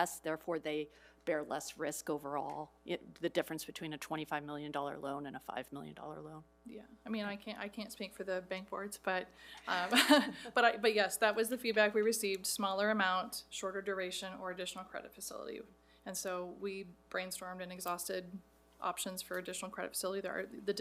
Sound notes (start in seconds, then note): 9.6 laughs; 9.6 board members laughing